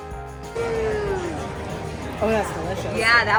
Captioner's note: people chattering